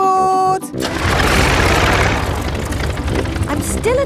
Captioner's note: plane engine starts